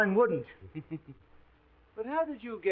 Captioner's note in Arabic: شيرلوك يضحك